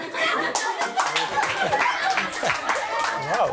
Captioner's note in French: rires